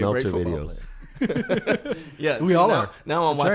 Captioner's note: laughs